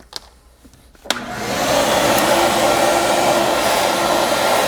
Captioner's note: vacuum humming